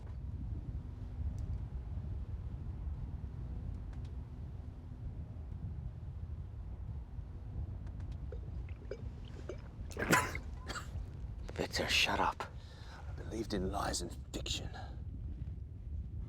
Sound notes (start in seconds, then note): 9.8 coughing